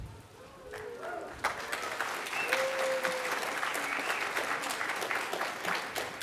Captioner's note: applause